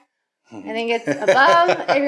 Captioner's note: laughing